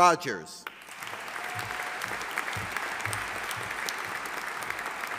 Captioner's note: audience applauding